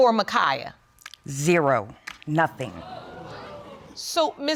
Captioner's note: audience exclaims